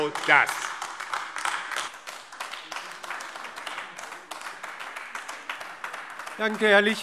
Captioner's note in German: Beifall AfD